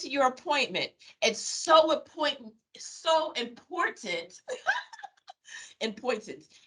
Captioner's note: laughing